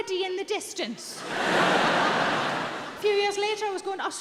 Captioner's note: audience laughing